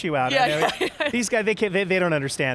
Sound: chuckles

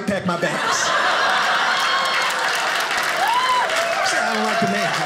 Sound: audience laughing

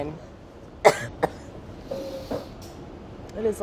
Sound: coughs

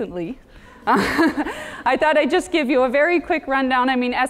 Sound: laugh

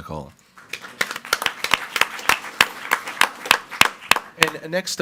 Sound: group applauding

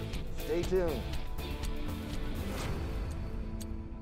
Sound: clock ticking

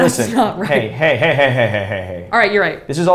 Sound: laughter

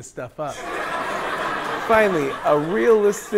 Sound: people laughing

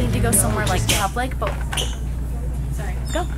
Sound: shoes squeaking on floor

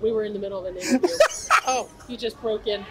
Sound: laughs

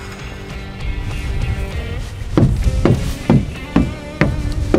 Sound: footsteps

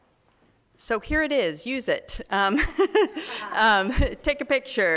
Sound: laughs

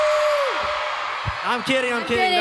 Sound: applause and cheering

